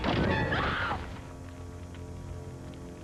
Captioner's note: screams